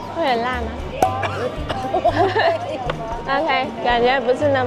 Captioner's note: coughing